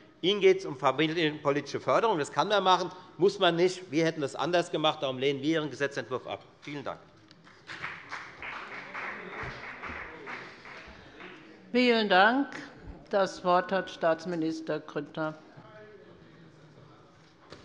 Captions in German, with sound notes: Ihnen geht es um eine familienpolitische Förderung. Das kann man machen, muss man aber nicht so machen. Wir hätten das anders gemacht. Deshalb lehnen wir Ihren Gesetzentwurf ab. - Vielen Dank. [Beifall bei der FDP] Vielen Dank. - Das Wort hat Staatsminister Grüttner.